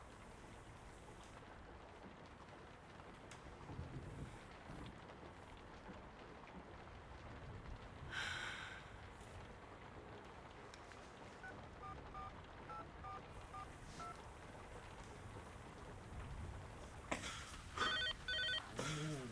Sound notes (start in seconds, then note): 8.1 sighs; 12.1 dialing; 17.8 phone rings